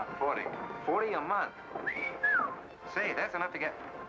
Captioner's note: whistles